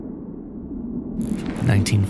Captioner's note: gunshot